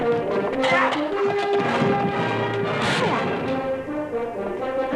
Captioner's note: grunting, smacking